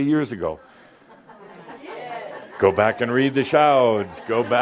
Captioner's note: someone says “You did” and a few chuckles